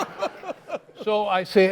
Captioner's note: laughs